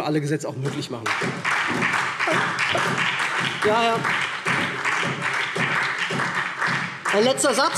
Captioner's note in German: Beifall SPD